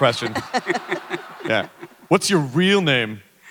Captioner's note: panel and audience laughter